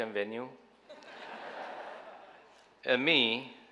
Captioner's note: audience laughing